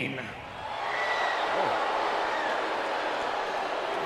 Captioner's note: crowd exclaiming